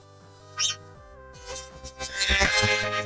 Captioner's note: chirping